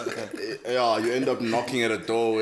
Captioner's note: laugh